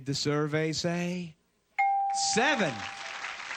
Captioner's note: ding